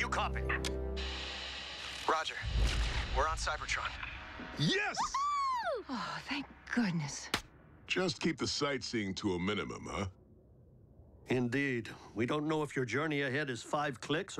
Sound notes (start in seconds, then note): none